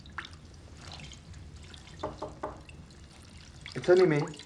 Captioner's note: knocking at door